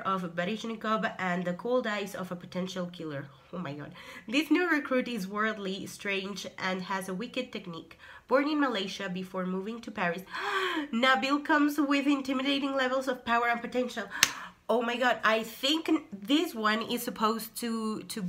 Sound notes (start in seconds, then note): 10.3 gasp